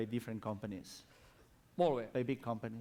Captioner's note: non-english speech